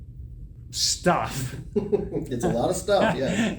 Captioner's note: chuckles